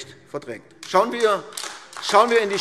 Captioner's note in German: Beifall AfD